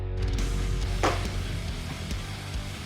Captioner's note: thudding